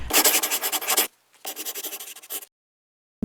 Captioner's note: scribbling